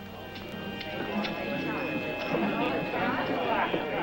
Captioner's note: mellow music; men clamoring